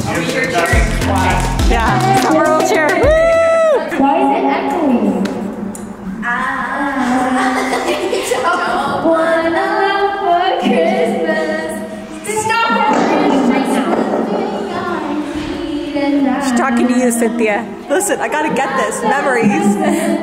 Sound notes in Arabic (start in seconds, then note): 2.9 هتافات كريستال; 7.4 كلاهما يضحك